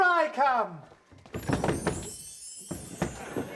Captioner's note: thud